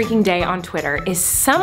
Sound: none

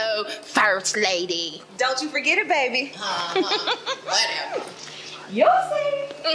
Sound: giggle

